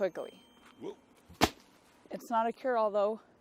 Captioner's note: thud